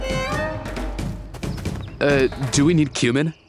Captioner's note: none